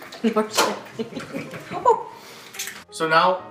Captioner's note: laughing